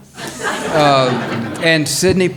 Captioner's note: audience laughs